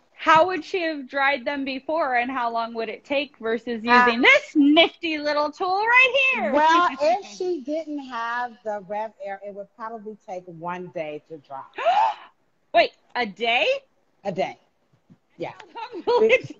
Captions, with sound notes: how would she had dried them before, and how long would it take versus using this nifty little tool right here? - Well, if she didn't have the RevAir, it would probably take one day to dry. - (gasping) Wait, a day? - A day, yeah.